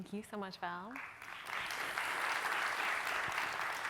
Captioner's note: applause